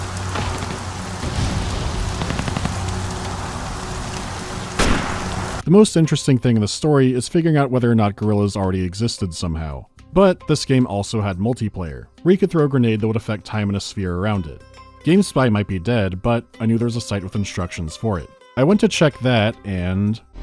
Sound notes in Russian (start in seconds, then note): 0.0 шелест дождя и отдалённые звуки перестрелок; 0.3 тонк; 4.7 понк; 4.7 шелест дождя и отдалённые звуки перестрелок